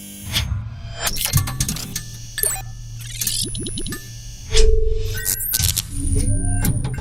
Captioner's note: electricity buzzes; electronics ring